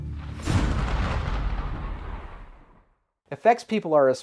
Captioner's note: thunder cracks